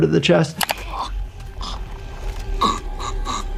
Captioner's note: person gurgles